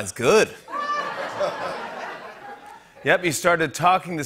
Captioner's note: laughter